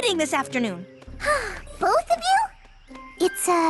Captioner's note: sighs